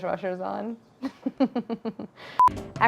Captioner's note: Claire laughs